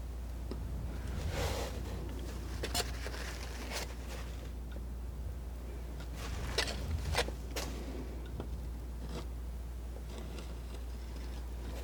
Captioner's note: scratching